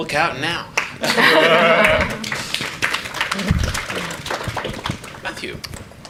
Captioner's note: audience clapping; everyone laughs